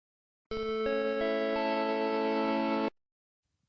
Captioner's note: Macintosh IIfx startup sound